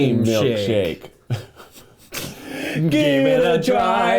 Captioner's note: laughing